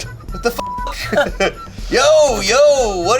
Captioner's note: beep